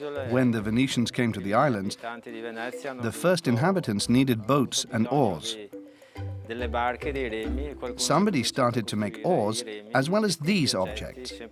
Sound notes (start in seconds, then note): 6.2 Italian spoken audio